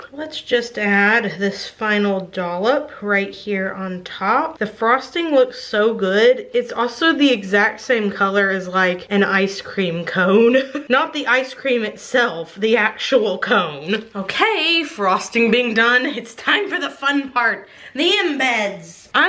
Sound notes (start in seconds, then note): 10.4 giggles